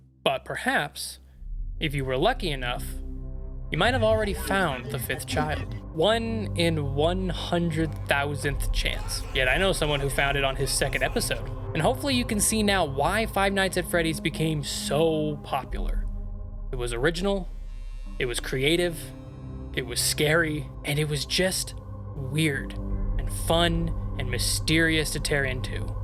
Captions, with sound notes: But perhaps if you were lucky enough, you might have already found the fifth child. [terrifying garbled language] One in 100,000 chance. Yet I know someone who found it on his second episode. And hopefully you can see now why five nights at Freddy's became so popular. It was original. It was creative. It was scary. And it was just weird and fun and mysterious to tear into.